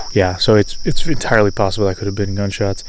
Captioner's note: blows air